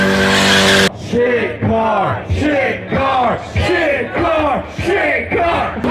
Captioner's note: crowd